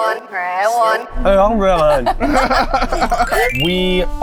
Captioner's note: laughing